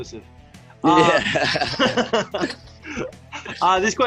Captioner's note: laughing